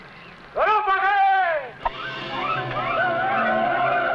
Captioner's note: man shouting in foreign language; men shouting